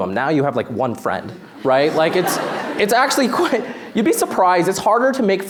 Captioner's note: laughter